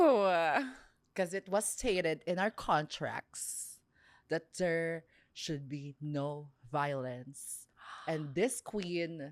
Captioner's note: gasps